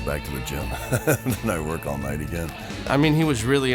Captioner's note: laugh